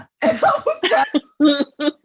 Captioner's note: laughing